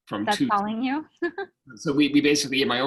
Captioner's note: laughing